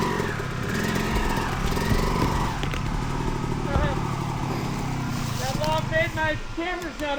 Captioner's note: engine roaring